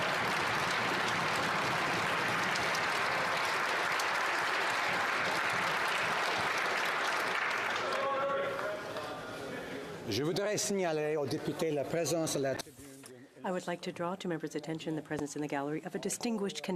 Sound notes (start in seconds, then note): 1.8 some Applause